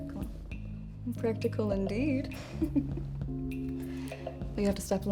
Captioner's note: laughs